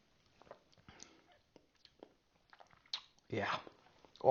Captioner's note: lips smacking